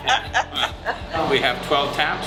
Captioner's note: laughs